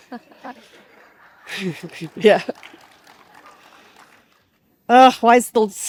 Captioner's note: participants laugh and clap